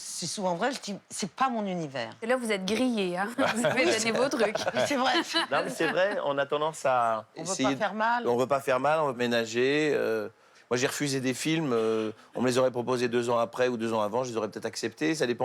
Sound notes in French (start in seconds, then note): 3.4 rires